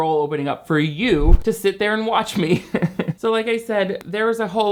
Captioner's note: laughing